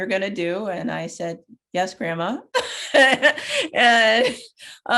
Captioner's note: laughs